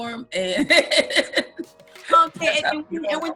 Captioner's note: laughs